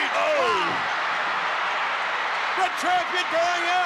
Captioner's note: Jesse exclaims